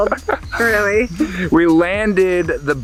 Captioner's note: laughing